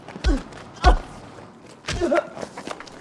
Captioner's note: loud headbutt